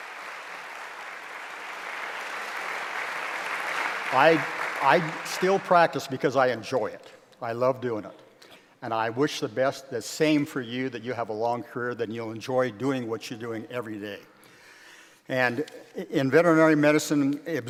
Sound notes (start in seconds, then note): 0.0 applause